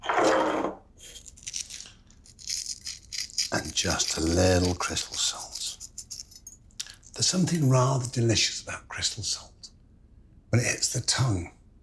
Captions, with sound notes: (salt sprinkling) And just little crystal salts. There's something rather delicious about crystal salt. When it hits the tongue,